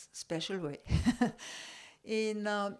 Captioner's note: laugh